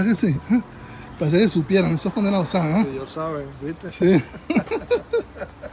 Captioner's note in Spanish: risas